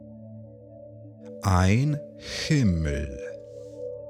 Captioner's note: german